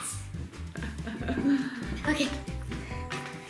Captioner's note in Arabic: يضحك